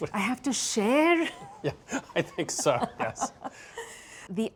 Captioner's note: both laugh